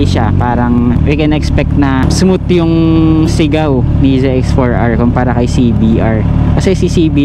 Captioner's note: high revving, screaming sound